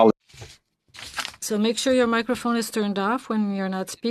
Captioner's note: speaking FRENCH